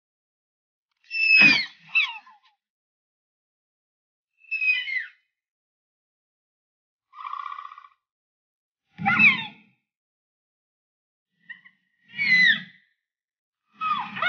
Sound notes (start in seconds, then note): 1.5 Dilophosaurus sounds